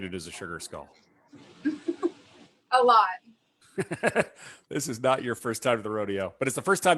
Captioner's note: chuckles